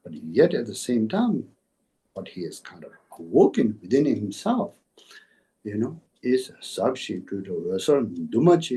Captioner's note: tibetan